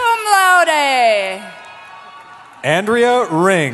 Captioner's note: cheering